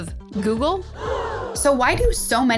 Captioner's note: crowd gasps